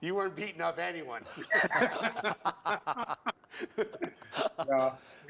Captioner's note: laughter